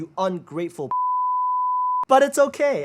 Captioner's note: beeps